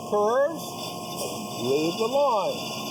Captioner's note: saw squeaking